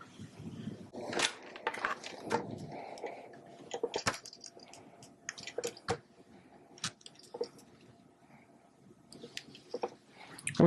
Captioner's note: ironing Noises